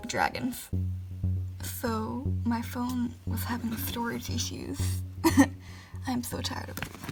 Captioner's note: laughs